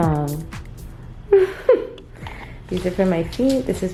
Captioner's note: giggles